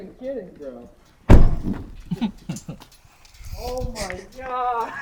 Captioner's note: car door slams; driver chuckles